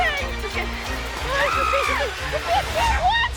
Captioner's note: screaming